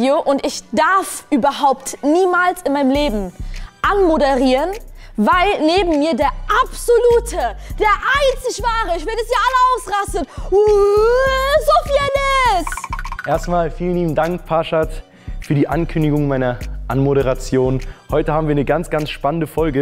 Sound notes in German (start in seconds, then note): 12.6 Klappernde Laute